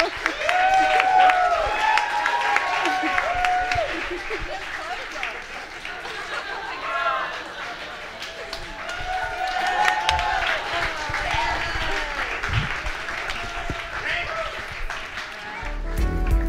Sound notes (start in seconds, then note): 0.9 applause and cheering; 15.7 smooth jazz